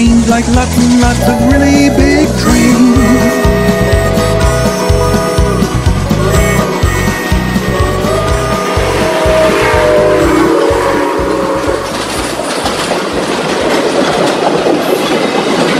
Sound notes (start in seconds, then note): 3.2 steam engine tooting